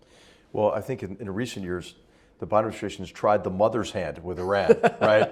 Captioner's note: laugh